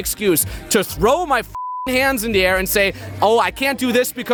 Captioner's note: beep